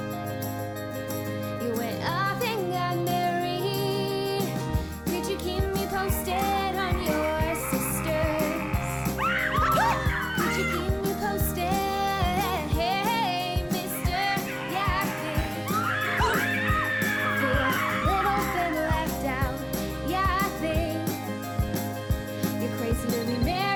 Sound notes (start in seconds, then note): 7.2 movie monster roars, actress screams; 8.5 girls yelp; 13.7 actress shrieking